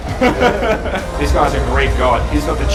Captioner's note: laughs